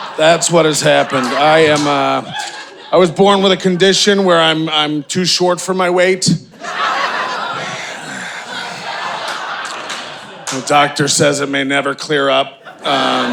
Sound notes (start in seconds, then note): 6.5 audience laughing; 12.6 audience laughing